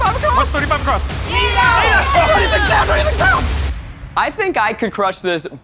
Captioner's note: cheering loudly